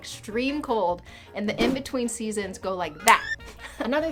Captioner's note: snap